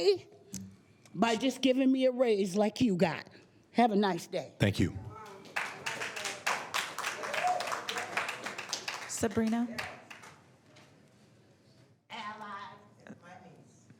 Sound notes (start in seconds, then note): 7.9 applause